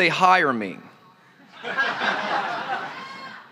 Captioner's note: laughter